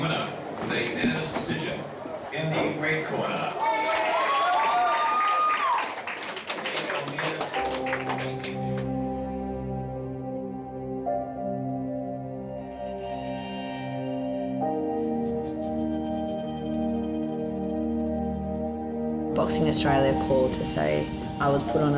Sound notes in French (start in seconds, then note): 2.8 acclamations de la foule; 7.0 musique mélancolique